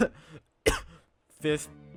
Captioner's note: excessive coughing